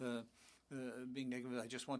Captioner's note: speaking French